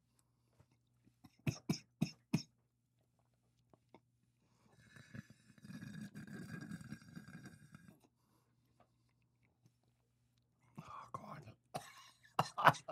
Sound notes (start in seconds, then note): 1.8 slurping; 11.7 coughing